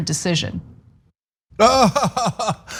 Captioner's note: laugh